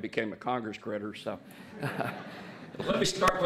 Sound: laughter

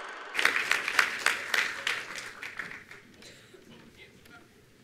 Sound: attendees applauding

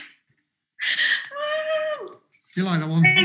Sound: laughs

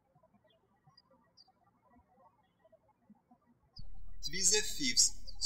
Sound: birds chirping

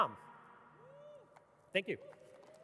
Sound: audience cheering

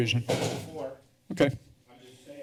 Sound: thud

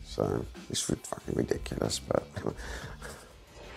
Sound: chuckles

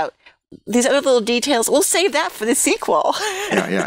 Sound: laughter

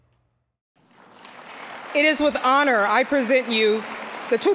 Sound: applause

